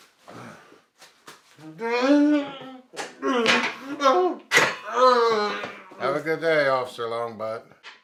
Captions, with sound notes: (Longbutt groans) - Have a good day, Officer Longbutt.